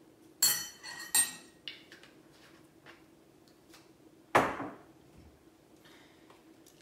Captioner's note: spoon slips